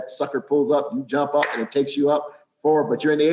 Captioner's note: claps